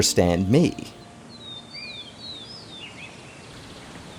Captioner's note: birds chirping